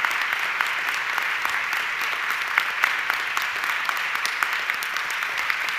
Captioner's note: audience clapping continues